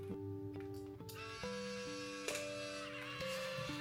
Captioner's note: click